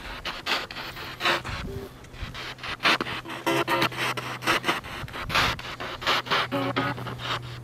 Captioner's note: radio noise from the spirit box